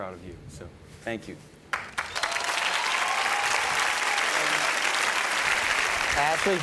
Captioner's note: audience cheers and applauds